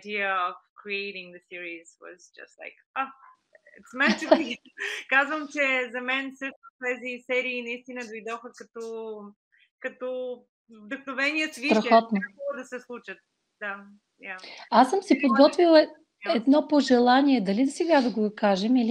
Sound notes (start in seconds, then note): 4.6 foreign Language Spoken; 14.6 foreign Language followed by English Interpreter